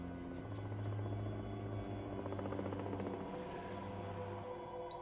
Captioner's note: helicopter whirring outside